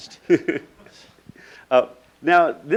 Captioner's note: laughing